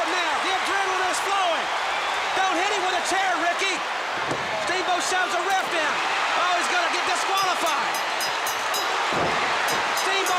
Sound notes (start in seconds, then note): 1.7 crowd cheering